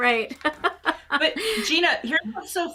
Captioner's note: chuckles